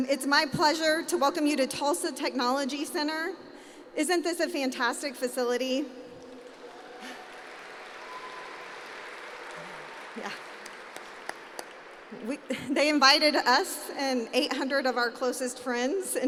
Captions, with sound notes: It's my pleasure to welcome you to Tulsa Technology Center. Isn't this a fantastic facility? [APPLAUSE] Yeah, they invited us and 800 of our closest friends